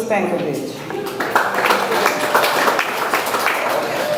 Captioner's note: audience applauds